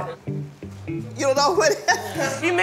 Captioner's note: laughing